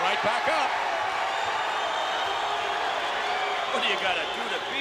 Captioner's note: crowd cheers